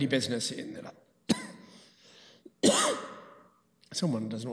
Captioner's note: coughing